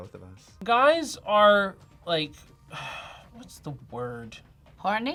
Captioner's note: sighs